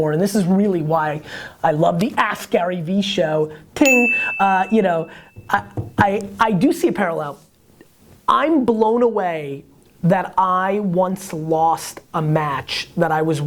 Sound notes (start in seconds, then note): 3.8 bell